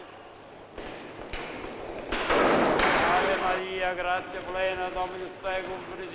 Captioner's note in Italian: grida confuse